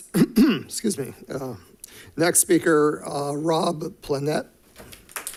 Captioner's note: clears throat